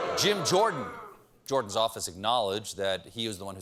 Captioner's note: booing